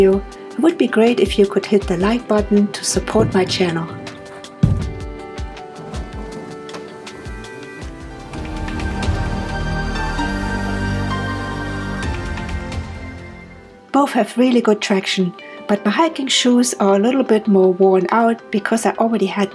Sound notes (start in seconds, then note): 4.5 sound of canoe hitting the ground; 8.5 upbeat music